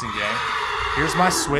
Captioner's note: horse neighs